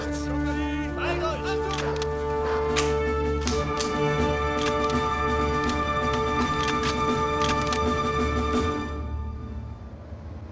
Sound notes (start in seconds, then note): 0.8 speaking german; 1.4 rifles cocking